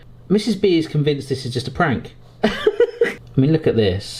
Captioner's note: laughs